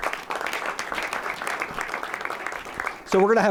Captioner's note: applause